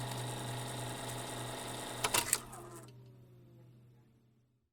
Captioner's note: projector Powers Off